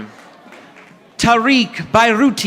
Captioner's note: audience applauding